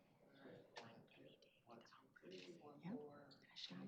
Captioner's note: background chatter